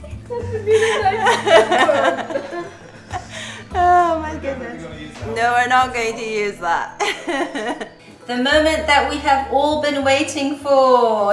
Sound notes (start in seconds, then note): 0.3 happy laughter; 7.0 laughter